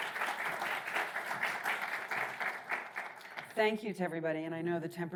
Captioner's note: audience applauding